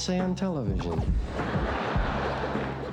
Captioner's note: laughter